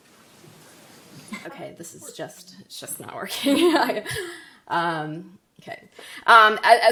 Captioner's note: laughs